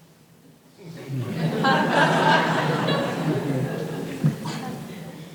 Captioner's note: audience laughing